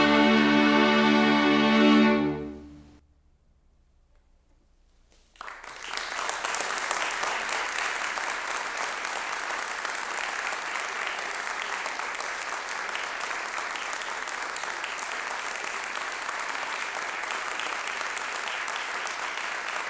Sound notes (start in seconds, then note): 5.3 applause